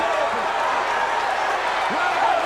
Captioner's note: crowd roars